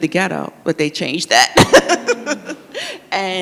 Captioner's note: laughs